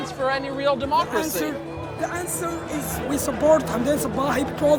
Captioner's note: speaking English